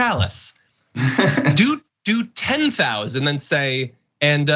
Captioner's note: laugh